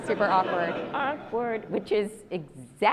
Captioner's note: audience laughs